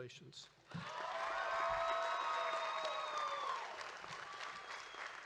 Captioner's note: audience cheering